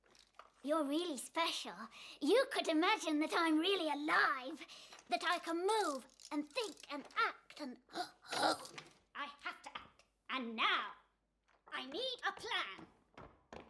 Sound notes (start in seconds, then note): 7.9 gasps